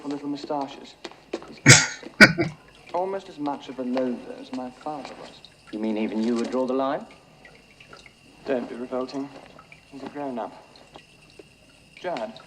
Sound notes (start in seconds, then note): 1.6 chuckling